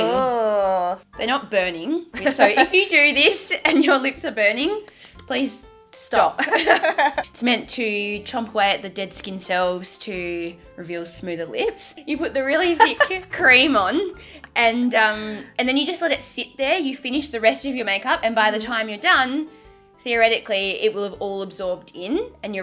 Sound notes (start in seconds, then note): 6.3 both laugh